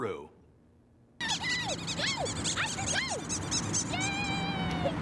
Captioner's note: dog toy squeaking; laughter